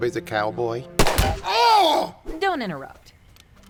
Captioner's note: gunshot